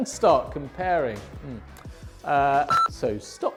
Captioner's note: beep